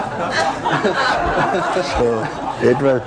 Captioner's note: laughter